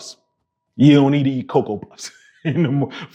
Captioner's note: laughing